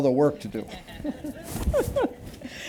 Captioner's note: laughter